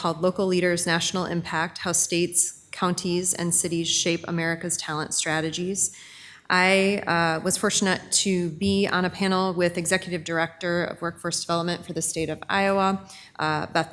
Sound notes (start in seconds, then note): none